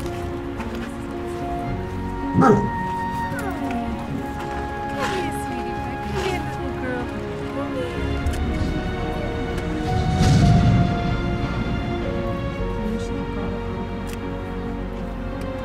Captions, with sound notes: [Bark] Hi. Come here sweetie pie. Come here little girl. Come here. [Kissing sound] Maybe she can crawl on her own.